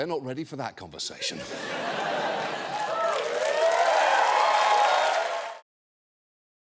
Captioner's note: audience laughing, cheering